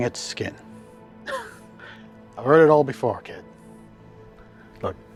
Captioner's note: laughs